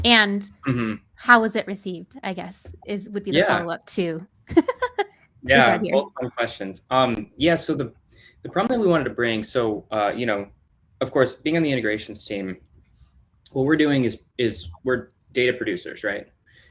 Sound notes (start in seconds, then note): 4.5 laughs; 5.7 mumbling